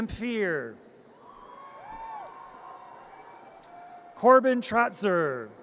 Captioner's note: audience cheers